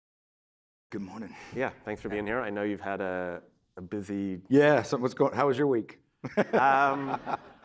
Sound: laughter

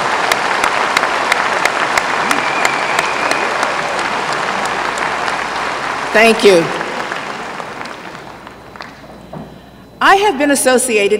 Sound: applause

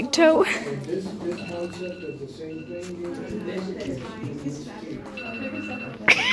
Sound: silence/alarm in background; laughing

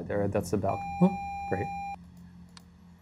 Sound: video game screen beeping

